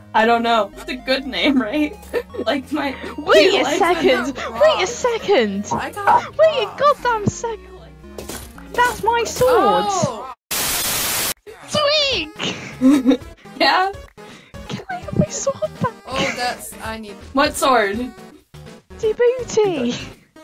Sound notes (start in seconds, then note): 1.4 laughs; 12.4 chuckles